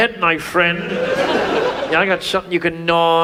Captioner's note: audience laughs